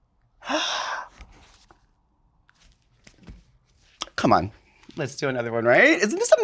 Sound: gasp

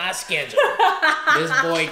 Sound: laughs

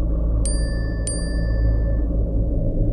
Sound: cell phone chimes

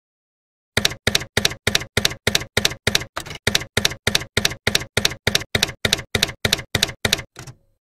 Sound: typewriter keys clacking

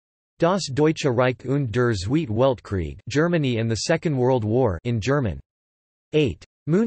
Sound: in German

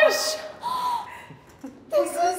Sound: laughs; Sydney gasps

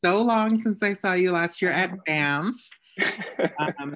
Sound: laughter

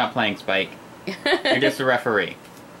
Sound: laughs

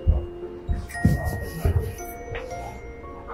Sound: footsteps

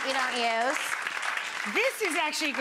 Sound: audience clapping

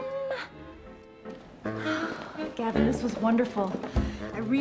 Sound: sighs

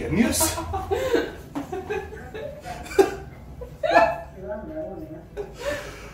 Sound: laughing

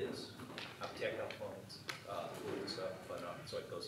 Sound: speaking foreign language

